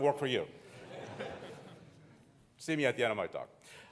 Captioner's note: audience laughing